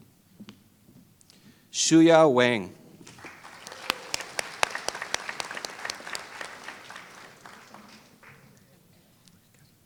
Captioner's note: applause